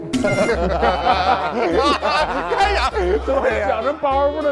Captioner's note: hahahaha